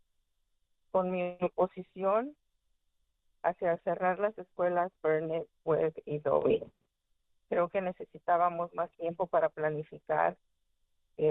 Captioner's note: speaking spanish